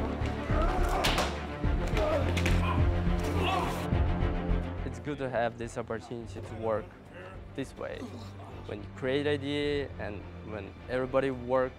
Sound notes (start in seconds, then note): 3.3 groans